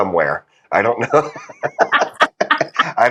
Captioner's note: laugh